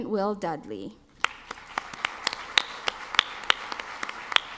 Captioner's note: clapping